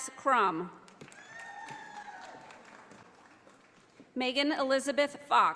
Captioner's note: audience applauding